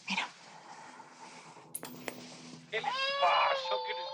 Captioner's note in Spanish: Llanto del bebé